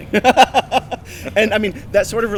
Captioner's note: laughing